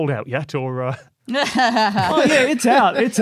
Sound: snide laughter

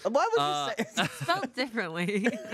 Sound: laughs

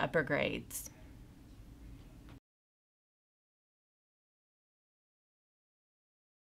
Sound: no audio

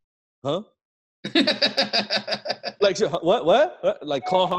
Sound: laughing

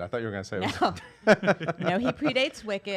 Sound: laughter

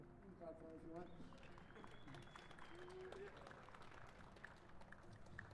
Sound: applause

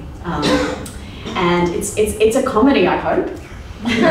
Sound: laughs

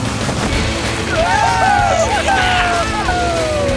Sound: laughing

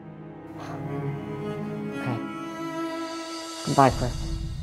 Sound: sighs

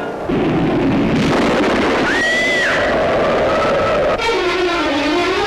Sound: thunder, Woman Screams, wind

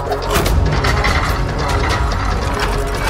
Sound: mechanism grinds; gears spinning

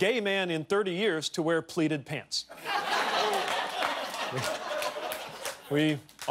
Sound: cheers and applause

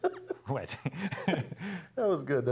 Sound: laugh

